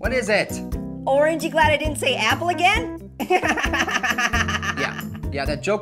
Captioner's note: laughs